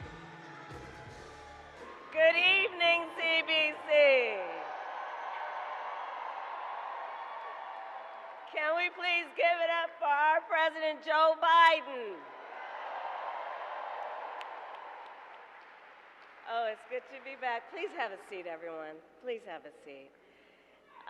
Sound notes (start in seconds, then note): 5.2 applause; 12.1 applause